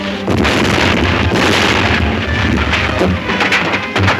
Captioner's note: dynamite booming